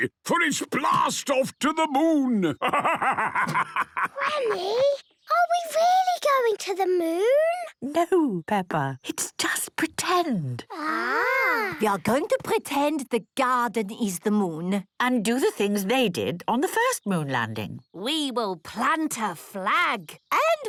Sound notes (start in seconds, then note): 3.9 whispers